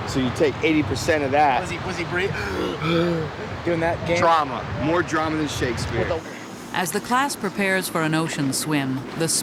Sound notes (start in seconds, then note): 2.3 gasps; 7.0 voiceover